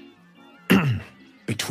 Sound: clears throath

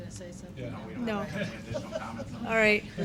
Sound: laughing

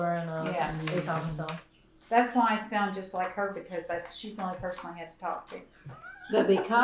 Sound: laughs

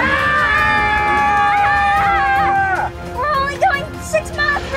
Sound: screams

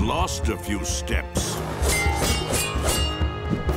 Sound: tinging

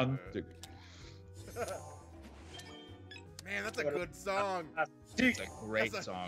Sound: laugh

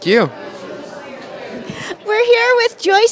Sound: crowd talking

